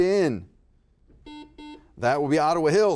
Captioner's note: buzzer buzzes